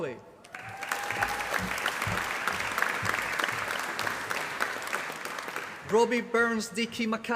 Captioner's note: applause